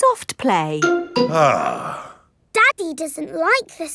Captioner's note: sighs